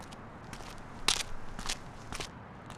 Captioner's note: footsteps